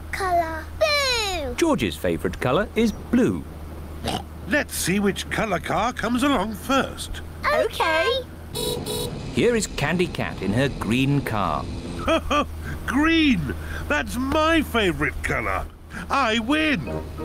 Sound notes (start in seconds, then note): 4.0 oinks; 8.5 horn beeps; 11.9 laughs